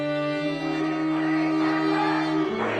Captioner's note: crowd chanting